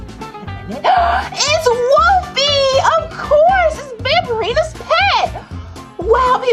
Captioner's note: gasps